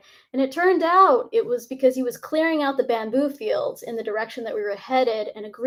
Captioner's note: none